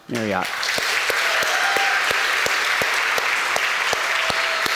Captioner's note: audience applauds